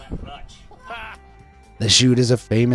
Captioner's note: bystanders laughing